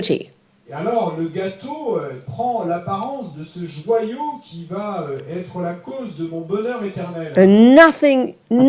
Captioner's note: French